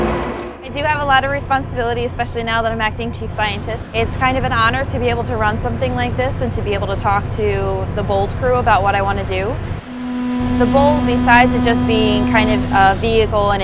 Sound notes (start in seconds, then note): 9.6 ocean waves; 9.7 ship horn